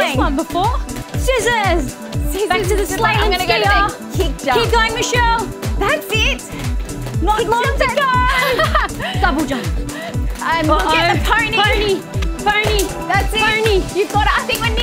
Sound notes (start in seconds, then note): 8.2 laughs